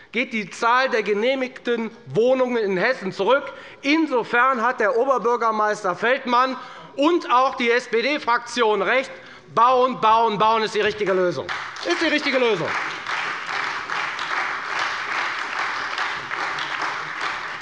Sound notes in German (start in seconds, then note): 12.9 Beifall bei der FDP und der SPD